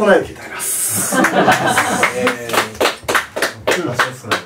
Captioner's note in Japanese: 拍手